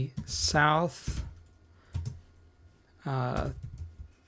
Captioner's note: typing